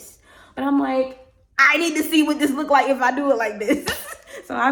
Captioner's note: laughs